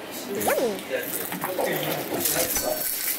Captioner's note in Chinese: 嚼嚼